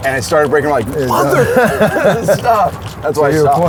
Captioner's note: laughs